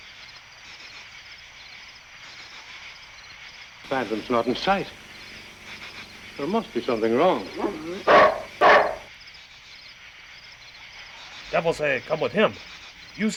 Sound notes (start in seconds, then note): 8.2 barks